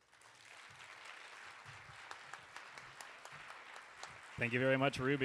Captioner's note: audience applauding